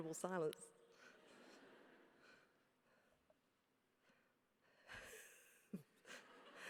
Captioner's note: laugh